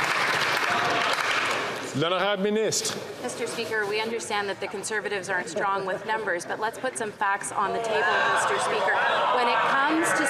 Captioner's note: some Applause